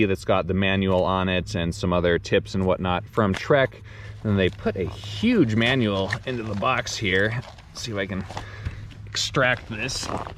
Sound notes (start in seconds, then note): 4.1 paper rustling